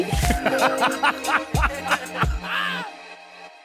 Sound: joyous laughter

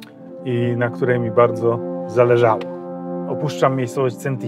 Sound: none

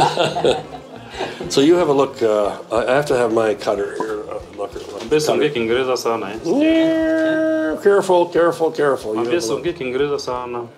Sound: speaking Swahili; laughing; speaking Swahili

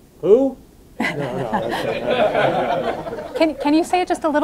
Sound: audience laughing

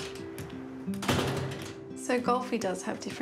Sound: door rattles

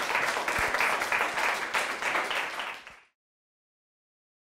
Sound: applause

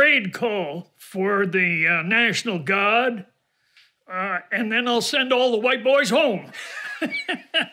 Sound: laughs

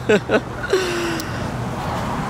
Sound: giggles; beach waves sound

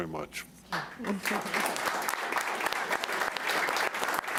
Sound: applauding

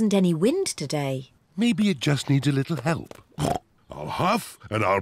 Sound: snorts

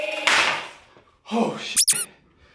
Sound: squeek

